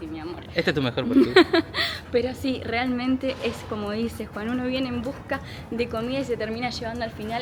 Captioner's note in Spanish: risas